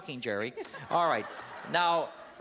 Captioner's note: laughter